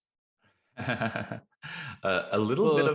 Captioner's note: laughing